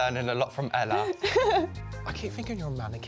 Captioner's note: laughter